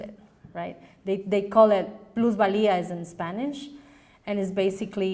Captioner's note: foreign language